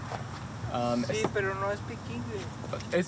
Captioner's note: speaking in Spanish